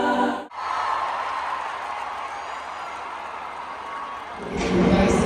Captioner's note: crowd cheering